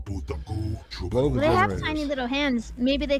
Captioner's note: non-english speech